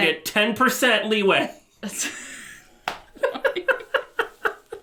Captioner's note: chuckles